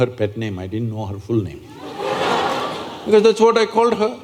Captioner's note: laughter